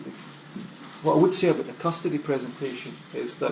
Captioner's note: voiceover